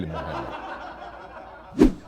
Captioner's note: laughter